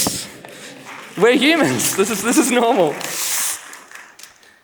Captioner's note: clapping